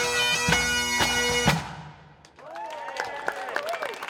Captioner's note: music ends, cheering, applause